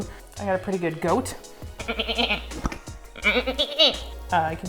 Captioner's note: goat sound